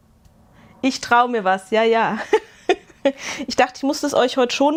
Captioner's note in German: gelächter